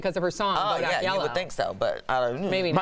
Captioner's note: laughter